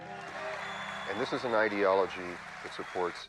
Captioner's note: audience applauding